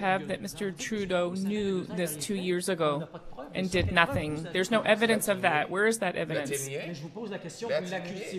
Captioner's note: speaking French